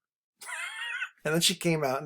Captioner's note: instructor laughs